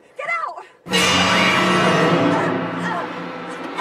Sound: choking

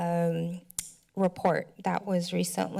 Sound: clicks tongue

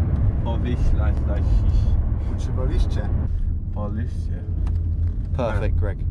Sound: speaking in a foreign language

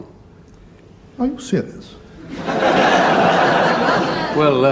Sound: audience laughs

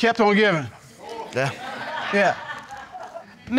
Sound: audience laughing

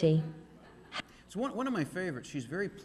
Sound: audience laughing

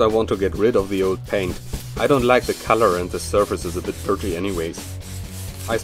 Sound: grinding

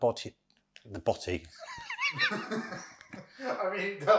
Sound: laughs

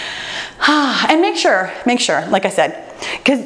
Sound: sighs

